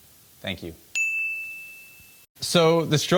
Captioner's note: bell ringing